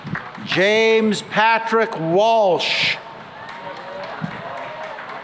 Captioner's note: cheering and applause